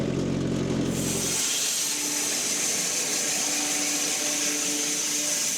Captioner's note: woodcutting machine hissing